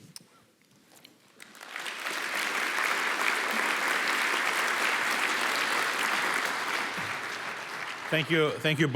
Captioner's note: applause